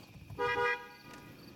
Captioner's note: Spanish; truck honks